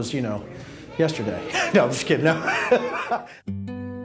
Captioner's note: laughing